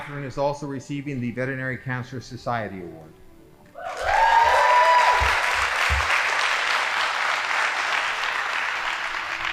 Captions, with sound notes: Catherine is also receiving the Veterinary Cancer Society Award. (audience applauding)